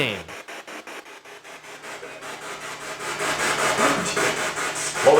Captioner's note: spirit box chattering